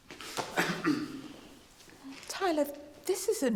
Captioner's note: Tyler coughs; hand thudding